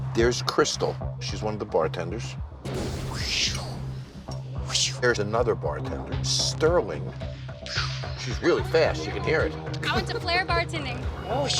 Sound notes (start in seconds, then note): 2.6 whooshing